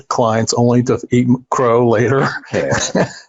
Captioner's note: laughing